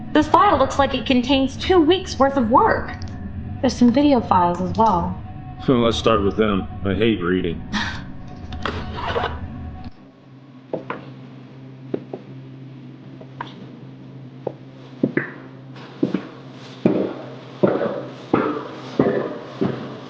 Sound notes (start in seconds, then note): 8.8 chuckling; 15.7 footsteps echoing